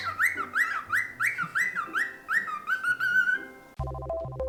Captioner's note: joyful whistling